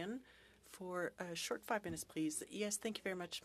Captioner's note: speaking French